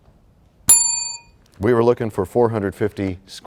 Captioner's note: bell rings, time expires